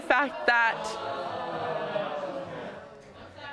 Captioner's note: audience exclaiming